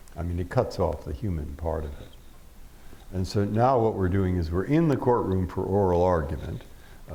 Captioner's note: none